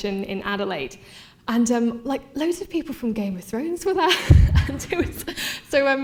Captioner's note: laughing